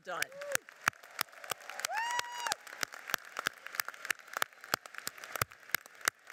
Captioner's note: audience cheers and applauds